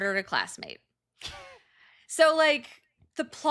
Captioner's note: snickering